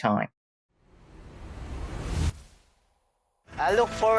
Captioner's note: logo whooshing; uplifting music